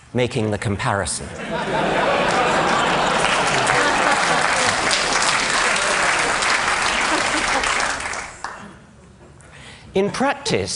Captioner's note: applause